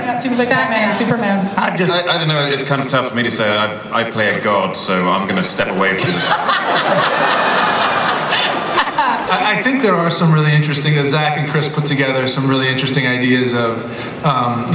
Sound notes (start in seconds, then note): 6.0 laughter